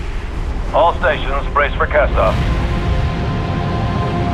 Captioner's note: radio